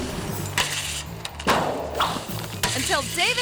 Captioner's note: metal scraping; metal clanks